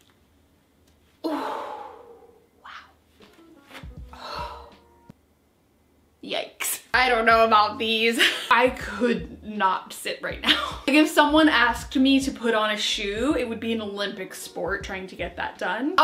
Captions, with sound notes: Wow. (sighs) Yikes, I don't know about these. I could not sit right now. Like if someone asked me to put on a shoe, it would be an Olympic sport trying to get that done.